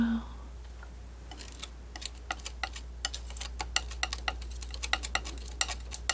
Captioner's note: scratching